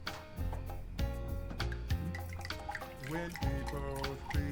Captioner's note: footsteps thudding; gentle music; wine bubbling